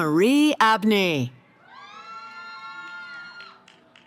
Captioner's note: cheering